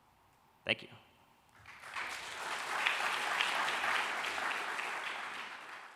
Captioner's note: applause